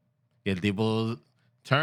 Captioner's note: speaking Spanish